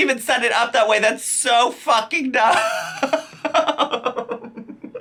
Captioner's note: laughs